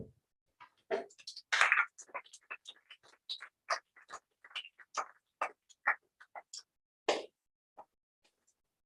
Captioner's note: applause